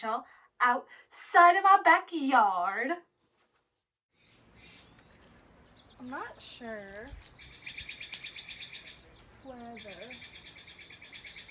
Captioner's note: bird sounds in bg